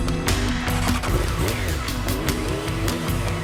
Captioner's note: engine starts